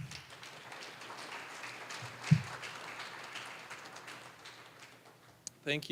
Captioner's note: applause